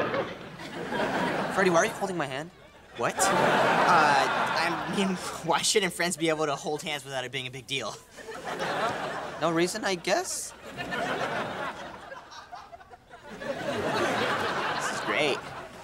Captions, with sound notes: Freddie, why are you holding my hand? What? Uh... I mean, why shouldn't friends be able to hold hands without it being a big deal? [laughing] No reason, I guess. [laughing] [laughing] This is great.